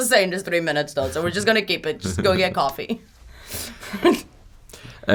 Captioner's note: laughs